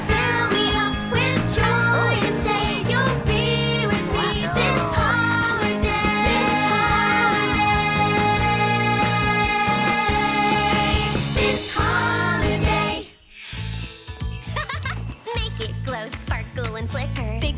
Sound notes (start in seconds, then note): 14.5 laughing